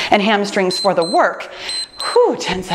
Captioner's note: timer beeps